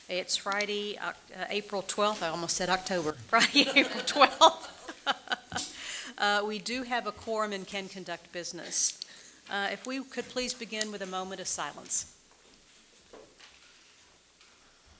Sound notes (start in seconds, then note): 3.4 laughs